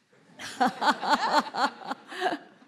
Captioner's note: laughter